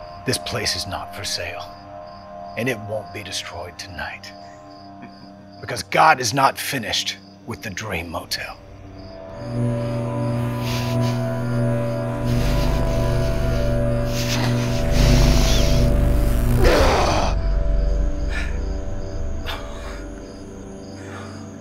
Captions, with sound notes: This place is not for sale and it won't be destroyed tonight because God is not finished with the Dream Motel. (electrical buzzing) (Matteo groans)